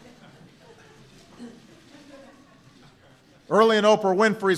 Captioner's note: laughter